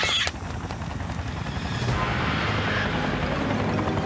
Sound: cackles; chopper blades whirring

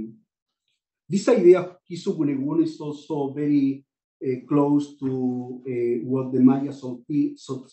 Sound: non-english

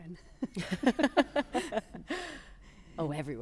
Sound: laughter

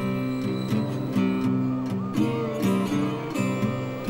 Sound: siren

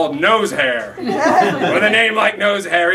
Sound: laughter

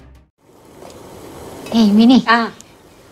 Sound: pot Rattles

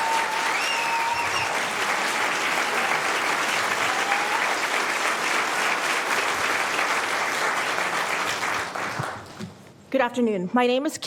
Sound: applause

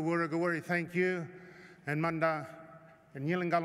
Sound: non-english speech

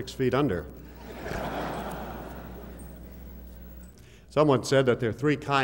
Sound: laughter

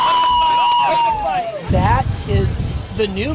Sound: cheering

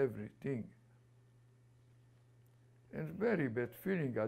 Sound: pauses for 3 seconds

